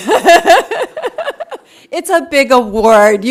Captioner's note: all laughing